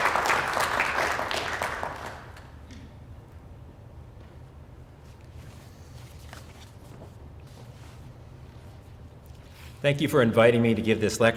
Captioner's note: applause